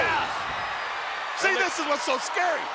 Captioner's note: audience cheering